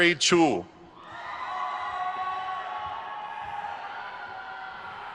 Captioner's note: crowd cheers